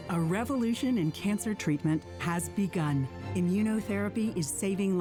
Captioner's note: voiceover